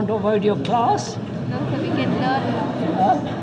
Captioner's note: laughter